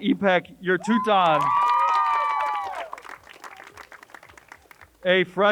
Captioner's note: crowd cheers and applauds